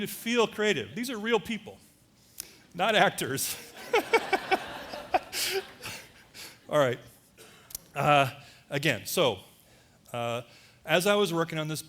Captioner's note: laughter; audience laughter